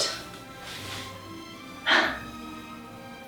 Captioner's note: breath taking sigh